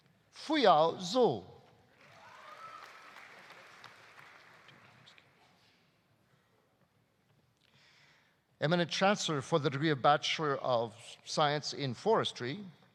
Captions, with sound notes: Fuyao Zou. (audience applauding) (audience cheering) Eminent Chancellor, for the degree of Bachelor of Science in Forestry: